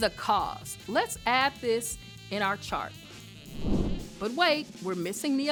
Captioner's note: air whooshes